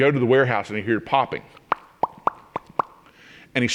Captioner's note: popping noises